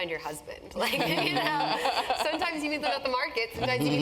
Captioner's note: laugh